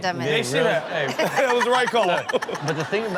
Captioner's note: laughs